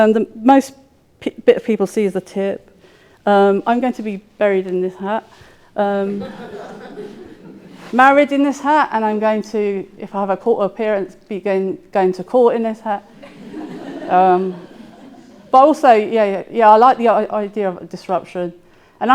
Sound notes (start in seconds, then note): 6.1 audience laughing; 13.1 audience laughing